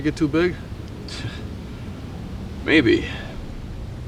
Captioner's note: laughs